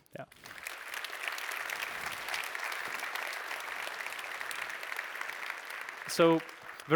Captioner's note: applause